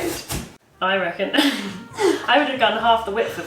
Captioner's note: laughs